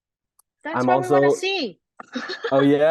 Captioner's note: laughs